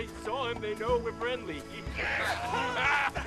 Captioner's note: cheering